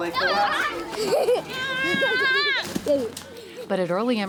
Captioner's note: laughing